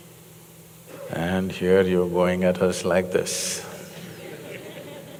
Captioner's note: few laugh